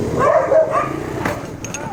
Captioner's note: snap